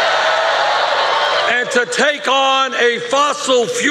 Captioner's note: cheers and applause